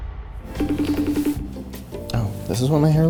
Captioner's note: phone ringing